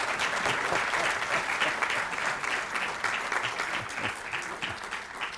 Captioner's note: applause